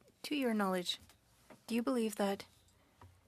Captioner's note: speaking French